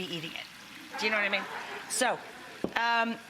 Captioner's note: audience laughing